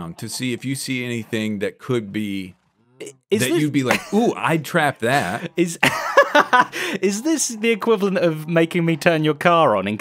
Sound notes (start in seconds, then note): 5.8 laughs